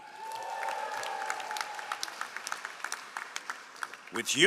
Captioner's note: all applauding